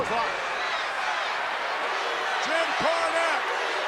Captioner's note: audience chanting